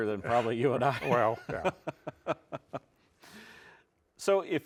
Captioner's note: laughs